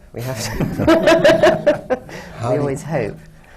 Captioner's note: laughter